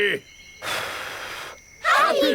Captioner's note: blows